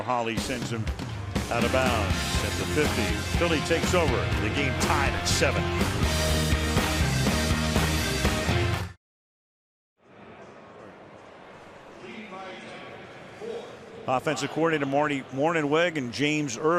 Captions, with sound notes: [rock music] [pa announcement] Offensive coordinator Marty Mornhinweg and James Urban with the quarterbacks and Michael Vick. And, of course, that whole brain trust with Andy Reid,